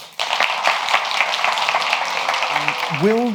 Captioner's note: audience applauds